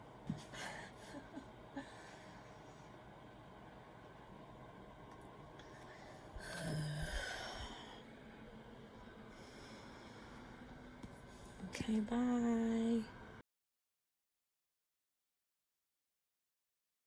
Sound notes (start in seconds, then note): 6.3 sighs